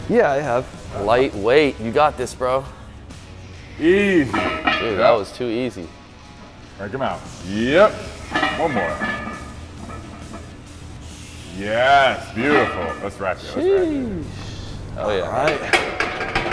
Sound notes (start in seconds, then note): 8.1 weight clanging